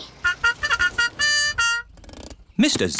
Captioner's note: horn tooting